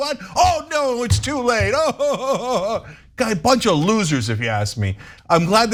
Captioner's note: laugh